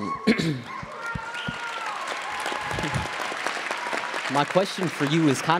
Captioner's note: attendees applauding